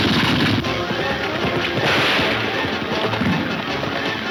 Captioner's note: gunshots banging